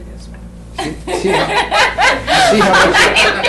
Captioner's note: laughter